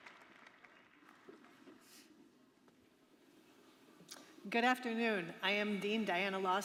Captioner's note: applause